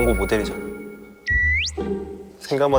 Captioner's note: swoosh